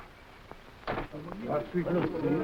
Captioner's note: footsteps echoing; door slamming